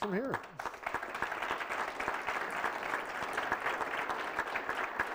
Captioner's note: applause